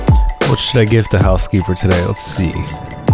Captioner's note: voiceover